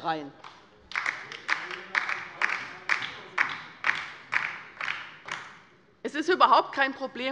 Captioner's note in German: Beifall bei der LINKEN